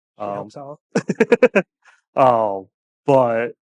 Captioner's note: laughing